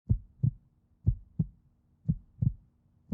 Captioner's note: heart beating